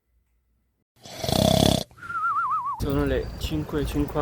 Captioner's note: sleeping sounds